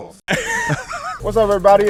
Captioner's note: laughing